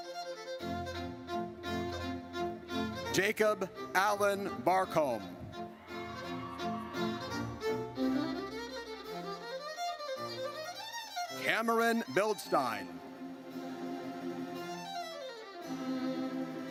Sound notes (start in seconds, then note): 0.1 triumphant music; 5.7 audience cheers; 13.6 triumphant music